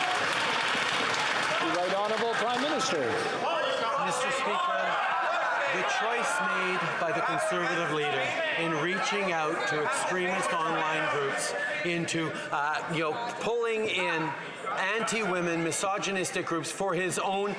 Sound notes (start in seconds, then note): 4.0 some Applause; 8.6 yelling